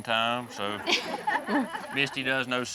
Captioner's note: everyone laughs